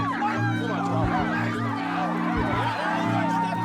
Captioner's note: chatter